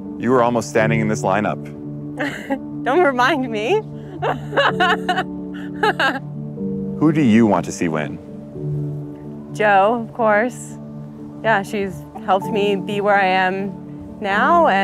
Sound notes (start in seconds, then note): 4.1 chuckles